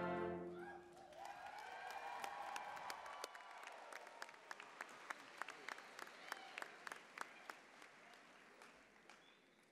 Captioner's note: applause, cheering